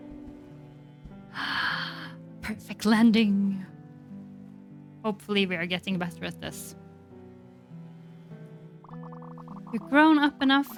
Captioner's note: gasps